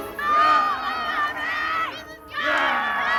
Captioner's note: suspenseful orchestral music; screaming